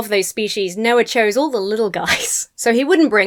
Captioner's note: laughs